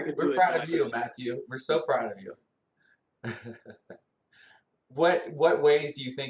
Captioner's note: laughter